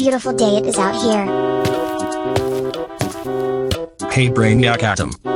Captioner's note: footsteps